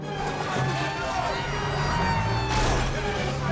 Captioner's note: agents clamoring; siren blaring